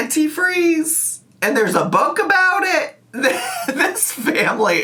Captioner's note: laughs